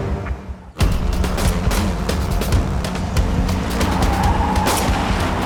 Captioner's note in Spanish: Disparos